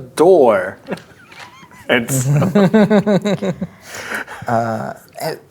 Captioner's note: laughing